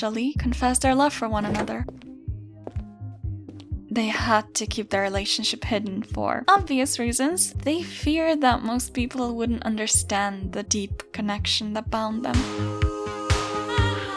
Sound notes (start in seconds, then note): 1.4 door opens